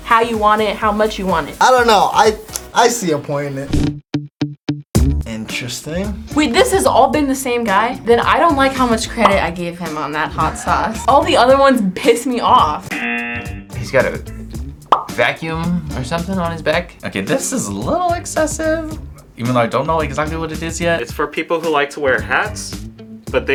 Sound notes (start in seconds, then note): 3.8 upbeat music; 12.9 buzzer rings